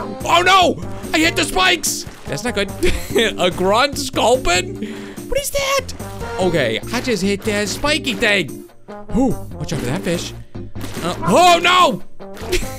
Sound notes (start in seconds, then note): 3.2 wheeze; 12.6 tiny laugh